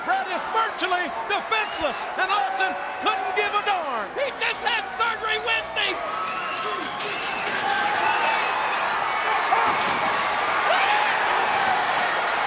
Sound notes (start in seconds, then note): 7.2 crowd cheering; 12.2 crowd yelling